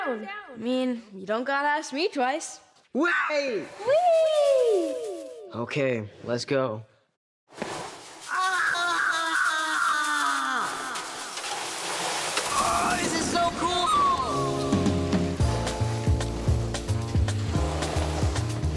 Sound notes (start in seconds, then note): 8.6 shouting; 14.5 soft jazz music